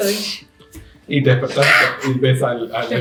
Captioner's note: scream